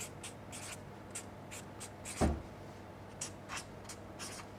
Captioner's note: pen scratching